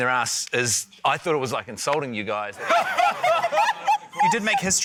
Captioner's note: laughter